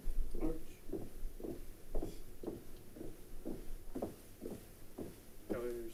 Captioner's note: ROTC units marching in place